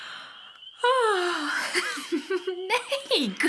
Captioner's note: yawning sound and laugh